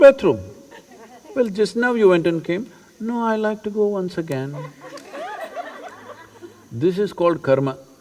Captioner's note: laughter